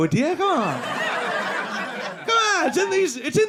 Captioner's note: audience laughing